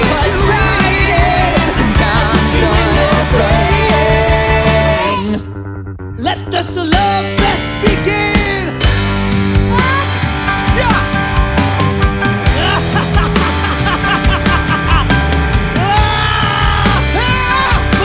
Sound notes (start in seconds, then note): 11.8 laughing; 16.0 yelling